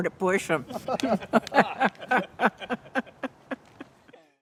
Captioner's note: laughs